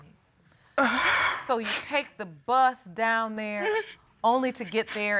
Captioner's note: sobbing